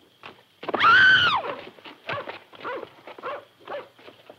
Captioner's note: scream and dog barking